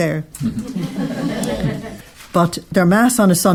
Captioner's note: audience laughing